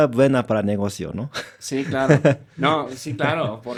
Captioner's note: laughs